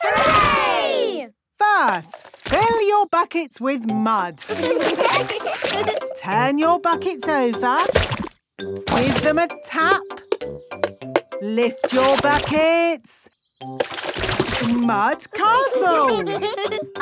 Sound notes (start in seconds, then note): 4.4 laughing; 11.7 taping; 15.8 all giggling